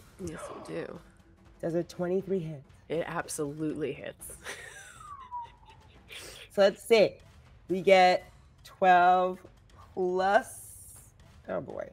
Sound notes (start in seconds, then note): 4.4 laughs